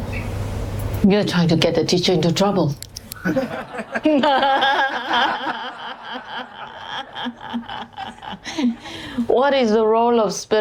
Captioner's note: laughter; 笑聲